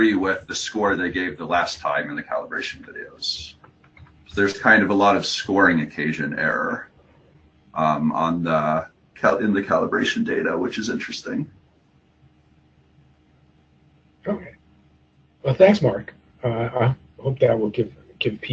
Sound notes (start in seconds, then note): 11.6 pause